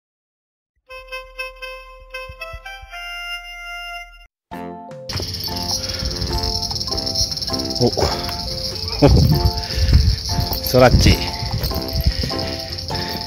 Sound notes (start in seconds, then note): 7.8 laughs